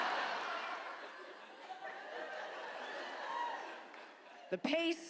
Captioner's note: audience laughs